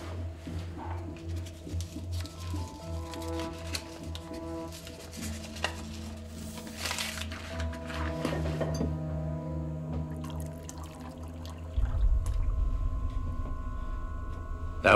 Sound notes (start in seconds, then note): 0.9 paper rustling; 1.4 tense music; 10.2 liquid pouring; 11.9 tense music